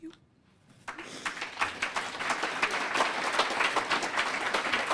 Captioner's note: applause